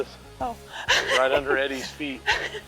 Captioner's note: laughs